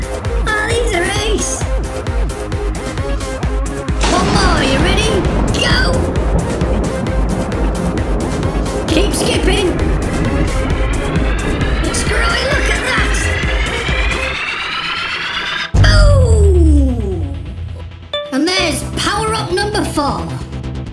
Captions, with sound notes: Aww, these are ace. One more, are you ready? *Thunder* Go! Keep skipping! [Swelling and rising noise] It's growing. look at that! BOOM! And there's Power-up number four.